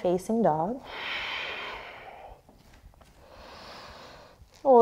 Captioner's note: deep breathing